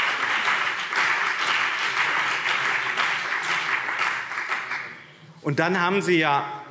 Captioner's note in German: Beifall BÜNDNIS 90/DIE GRÜNEN und CDU